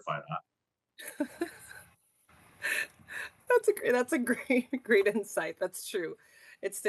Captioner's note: rires